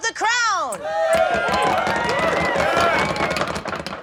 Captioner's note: cheering